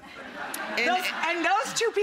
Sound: audience laughing

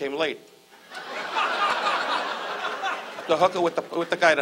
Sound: audience laughs

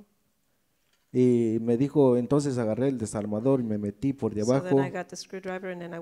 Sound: speaks in foreign language

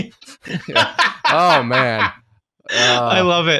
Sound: laughs loudly

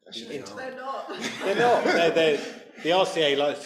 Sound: audience laughs

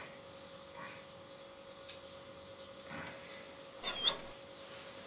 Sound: distant birds chirping; dog whining; distant birds chirping

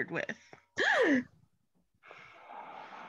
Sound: Chip gasps

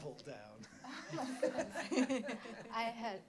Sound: laughter

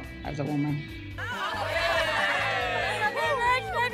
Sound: group cheering

